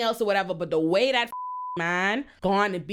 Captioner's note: beep